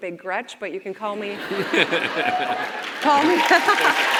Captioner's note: audience and Chris laugh; audience cheers and claps